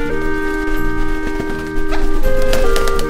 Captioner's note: wings flapping